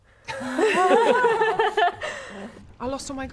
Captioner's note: laughing